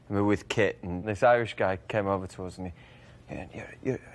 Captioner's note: none